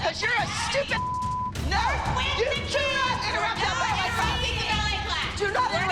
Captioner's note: shouting